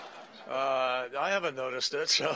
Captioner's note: laughter